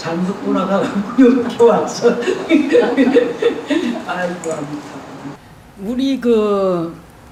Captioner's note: laughter